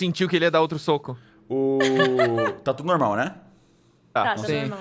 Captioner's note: laughing